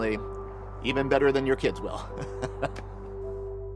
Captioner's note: laughs; soft warm music